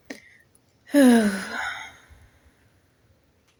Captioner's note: sighs